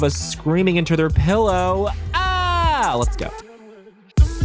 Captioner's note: yells